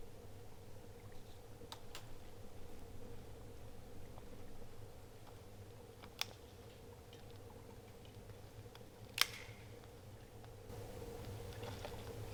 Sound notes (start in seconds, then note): 6.3 wood cracking